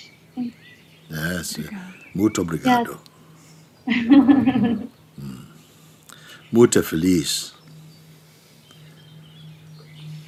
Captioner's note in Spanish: en portugués